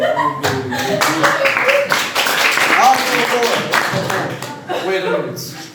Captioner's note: laughing; applause